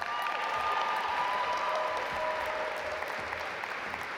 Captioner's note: audience applaud